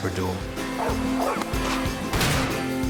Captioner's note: barking